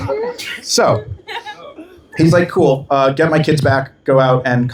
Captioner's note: laughter